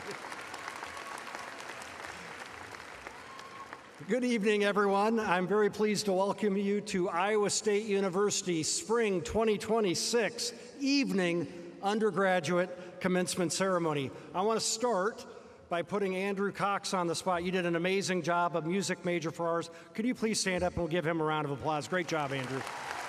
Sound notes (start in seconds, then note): 3.6 applause